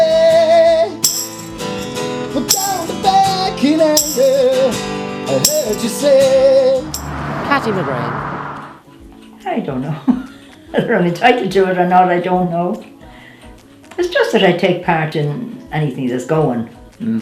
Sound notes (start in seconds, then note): 10.0 laughs